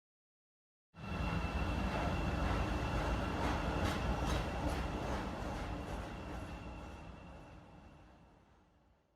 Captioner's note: train sounds